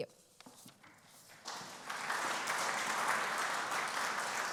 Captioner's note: applause